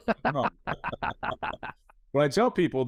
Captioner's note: all chuckles